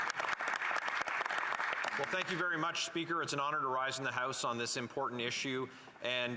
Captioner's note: some Applause